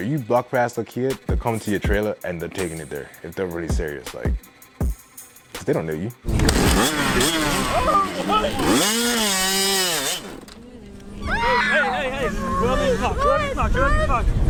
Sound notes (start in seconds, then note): 5.4 rap instrumental stops; 6.2 bike starts up; 10.0 bike cuts out; 11.0 screams